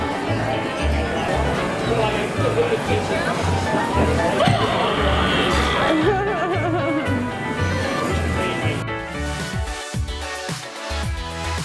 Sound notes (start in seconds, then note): 4.1 laughing; 9.0 upbeat music